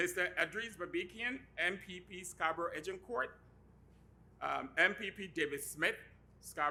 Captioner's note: none